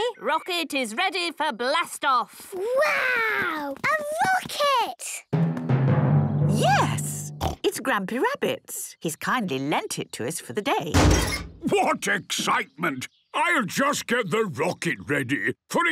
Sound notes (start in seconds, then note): 10.9 metallic door bursting